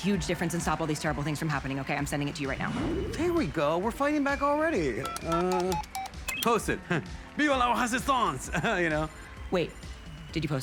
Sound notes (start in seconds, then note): 7.2 chuckles